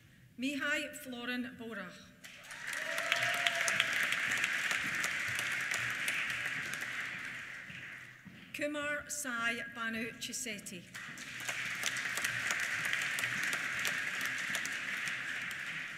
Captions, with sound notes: Mihai-Florin Bora. (CHEERS) (APPLAUSE) Kumar Sai Bhanu Chesetti. (APPLAUSE)